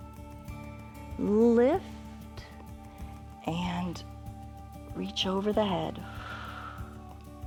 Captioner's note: exhales